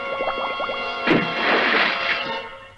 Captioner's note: splash!